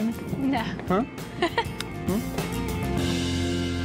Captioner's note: giggling